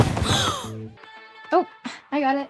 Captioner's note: book clatters; Kaitlyn gasps